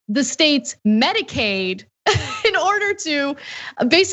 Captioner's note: laugh